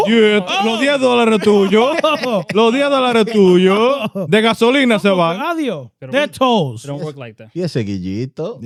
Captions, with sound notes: (Speaking In Foreign Language) They're toes. They don't work like that.